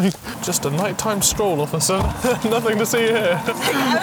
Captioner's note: laughter